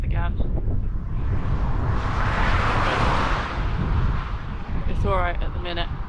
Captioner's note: passing car